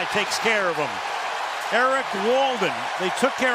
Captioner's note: cheering